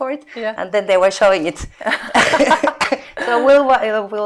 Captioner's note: laughing